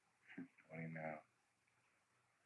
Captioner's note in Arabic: يضحك